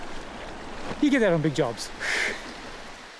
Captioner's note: chuckles